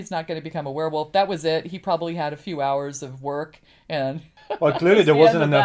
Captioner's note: laughs